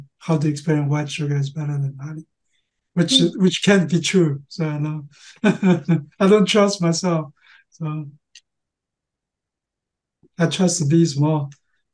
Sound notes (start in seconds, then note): 5.2 laughing